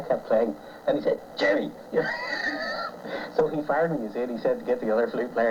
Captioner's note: laughs